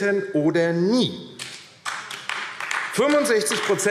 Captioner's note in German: Beifall AfD